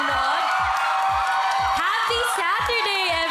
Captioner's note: cheering, applause